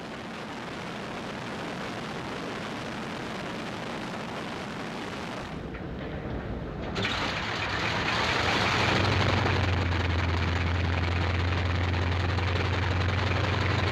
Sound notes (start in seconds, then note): 0.2 plane roaring; 7.4 plane engine roaring